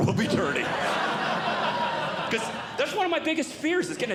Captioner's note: audience Laughing